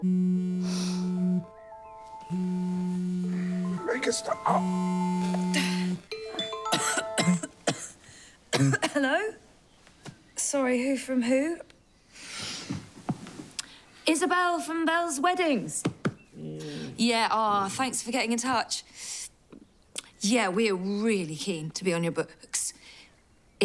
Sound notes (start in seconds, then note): 0.2 phone vibrating; 5.3 phone still vibrating; 6.7 coughing